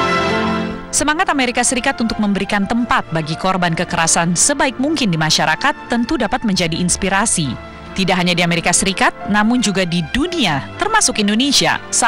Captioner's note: non-english speech